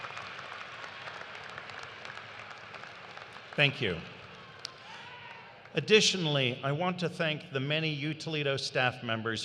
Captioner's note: cheers and applause